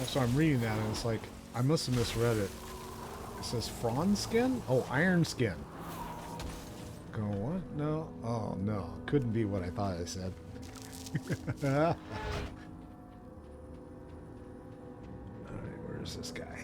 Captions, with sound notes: So, I'm reading that and I must've misread it. It says, "Frawn skin." Oh, "Iron skin." Going on, what? No. Oh no. [laughs] Alright, where is this guy?